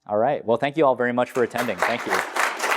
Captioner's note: applause